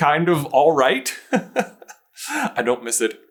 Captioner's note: chuckles